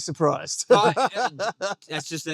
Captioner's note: laughing